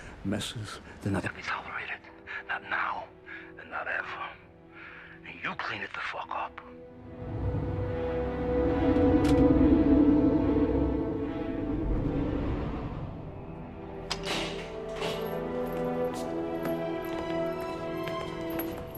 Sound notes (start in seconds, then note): 7.5 somber music; 14.1 gate clanking